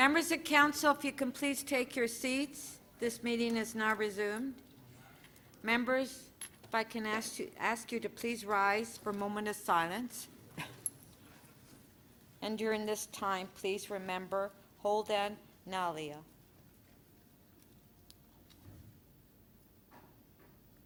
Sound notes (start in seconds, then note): 14.5 moment of Silence